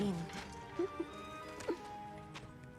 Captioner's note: laugh